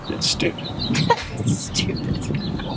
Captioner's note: both laugh